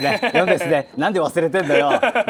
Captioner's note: laughs